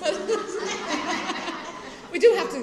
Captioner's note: laughter